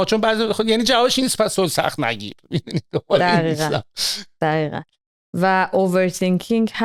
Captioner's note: scoffing sound